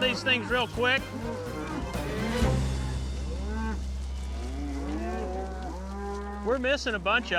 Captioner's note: mooing